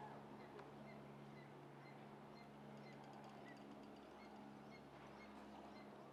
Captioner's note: none